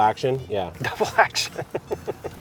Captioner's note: laughing